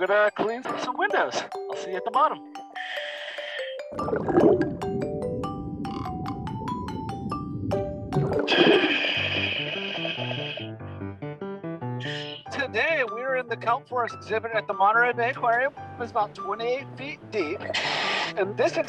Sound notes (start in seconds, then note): 3.8 water bubbling; 10.5 perky piano music